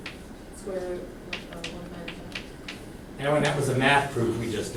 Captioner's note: voiceover